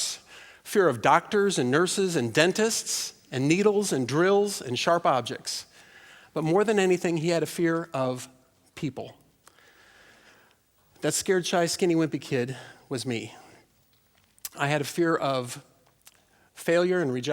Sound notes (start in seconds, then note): none